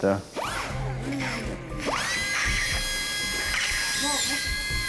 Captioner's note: drill buzzing